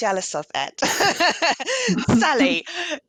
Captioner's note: laughter